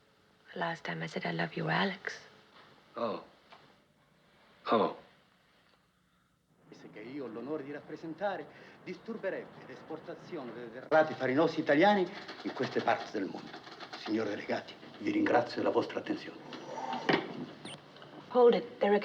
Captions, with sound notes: No. The last time I said, "I love you, Alex." Oh. [Man Speaking Italian] [Continues In Italian]